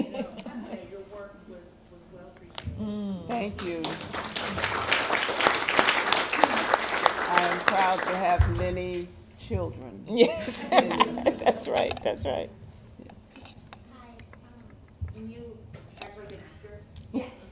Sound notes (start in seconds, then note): 6.8 applause; 10.1 laughter